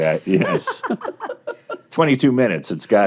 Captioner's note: hosts laughing